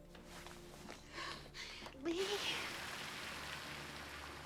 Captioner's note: crying